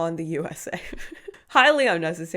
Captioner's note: giggling